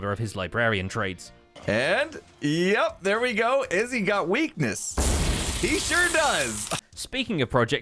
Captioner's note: magic noises